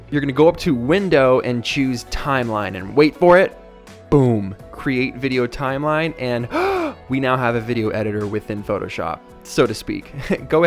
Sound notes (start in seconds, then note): 6.4 gasps; 10.0 chuckles